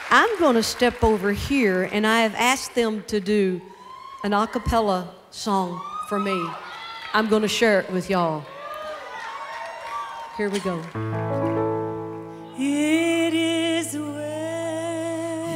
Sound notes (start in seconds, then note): 8.3 cheers and applause; 10.9 piano notes play